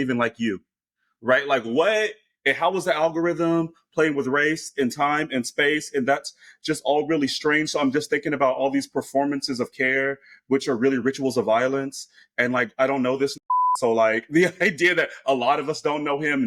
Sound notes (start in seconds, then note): 13.4 beep